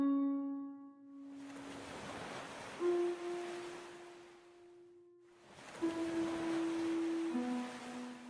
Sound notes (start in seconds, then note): 1.3 morbid music playing; 1.3 distant water splashing